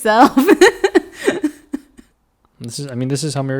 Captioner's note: laughs